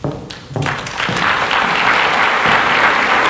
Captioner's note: applause